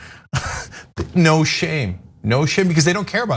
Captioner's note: laugh